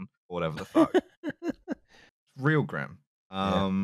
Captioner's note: laughs